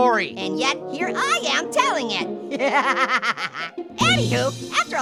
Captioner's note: laughing